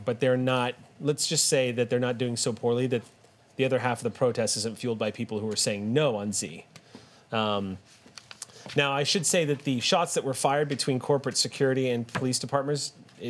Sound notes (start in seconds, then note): none